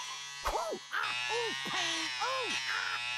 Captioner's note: buzzing; Daffy groaning